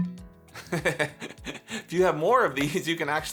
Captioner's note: chuckles